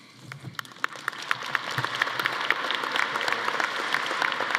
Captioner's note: audience applauding